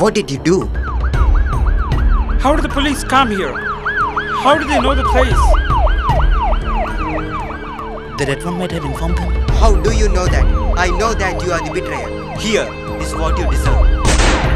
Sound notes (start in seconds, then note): 0.7 police siren